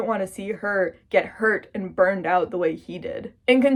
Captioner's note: none